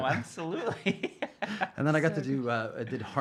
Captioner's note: laughing